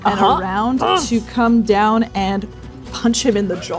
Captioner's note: grunting